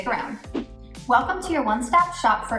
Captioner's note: air whooshes